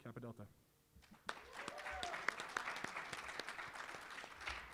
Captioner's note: applause